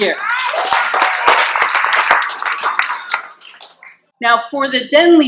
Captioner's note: clapping and cheering